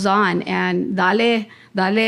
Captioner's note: speaking in Spanish